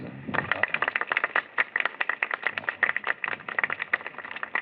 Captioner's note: applause